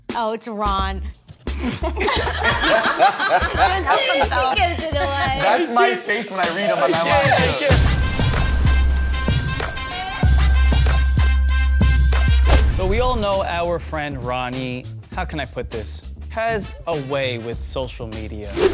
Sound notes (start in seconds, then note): 1.5 group laughs; 7.8 upbeat hip hop music; 18.5 blind zooms and clicks